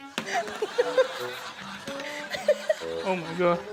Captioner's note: laughs